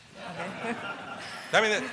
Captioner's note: laughter